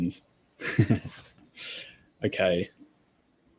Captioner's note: laughs